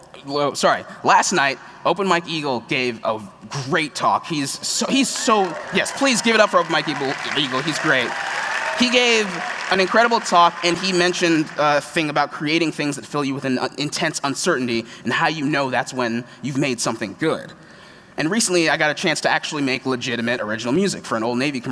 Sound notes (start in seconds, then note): 4.3 cheers; 7.9 applause